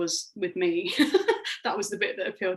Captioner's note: laughing